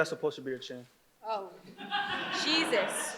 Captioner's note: audience laughs